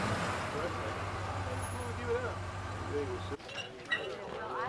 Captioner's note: men chattering